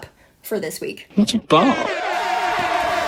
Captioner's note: klaxons, cheers